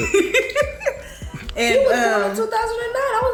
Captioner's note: laughing